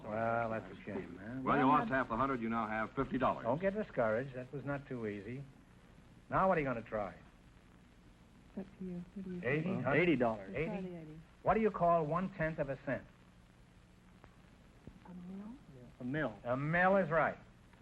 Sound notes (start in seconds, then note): 8.5 whispering; 15.1 whispering